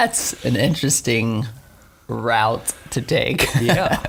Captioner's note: laughing